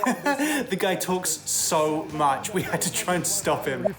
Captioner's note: laughs